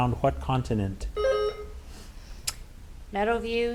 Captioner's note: buzzer ringing